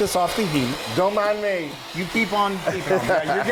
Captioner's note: laugh